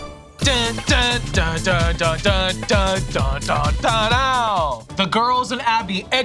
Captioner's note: Abby imitating dance music